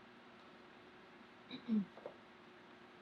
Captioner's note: clears throat